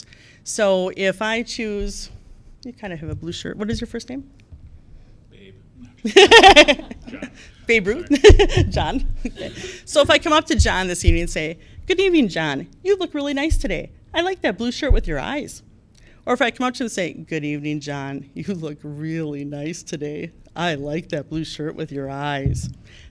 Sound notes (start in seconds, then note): 6.0 laughter